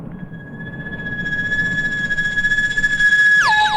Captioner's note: high pitched whine